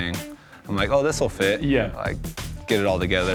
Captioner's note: laughing